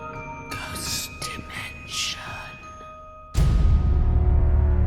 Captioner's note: whispering Voice